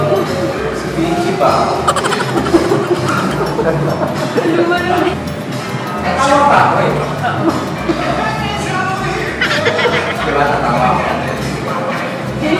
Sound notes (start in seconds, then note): 1.7 laughs